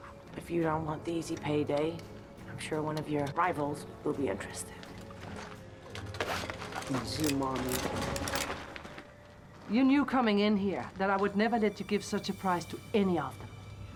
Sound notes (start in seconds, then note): 7.0 speaking Slavic language